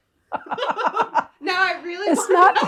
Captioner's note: both laughing